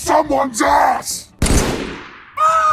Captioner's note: battle rifle shot